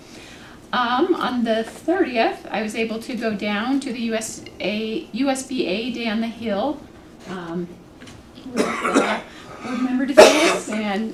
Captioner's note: cough